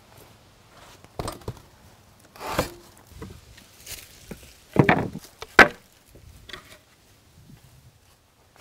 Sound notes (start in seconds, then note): 4.7 wood planks clanking